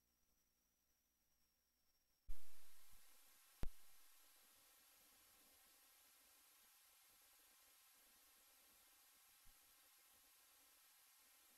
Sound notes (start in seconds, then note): 2.9 quiet VHS static